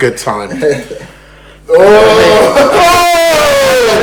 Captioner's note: yawns